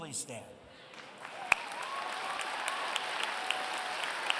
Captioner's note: applause